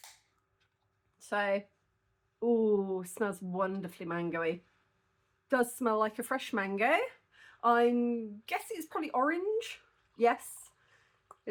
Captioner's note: sniff